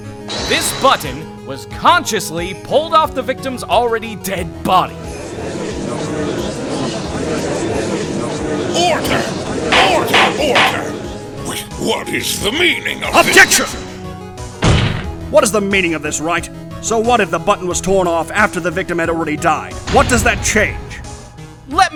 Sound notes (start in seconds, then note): 5.0 gallery chattering; 9.7 gavel slams!